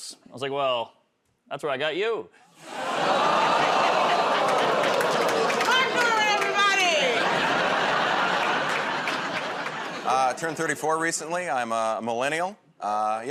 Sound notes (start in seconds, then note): 2.6 audience "Oh"s; 7.5 laughter